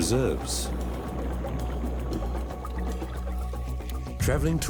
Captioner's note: water flapping